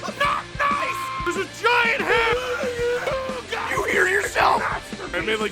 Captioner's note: screaming; Harry potter screaming